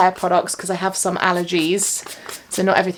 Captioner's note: spray pump hissing